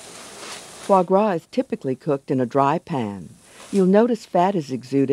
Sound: voiceover

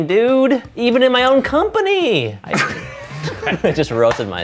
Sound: laughter

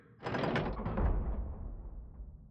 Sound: mechanical noise

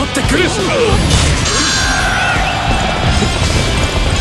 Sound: KO Scream

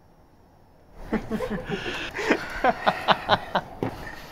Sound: laughter

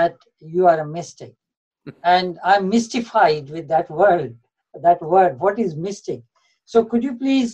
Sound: Sadhguru laughs

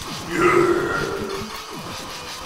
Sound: more grunts

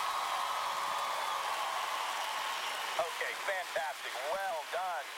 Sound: cheering and applause

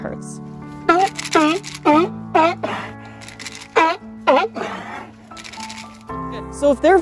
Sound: target rattle noise; sea lion vocalizing

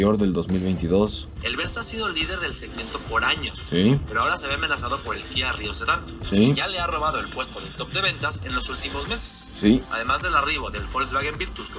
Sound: man speaking in Spanish

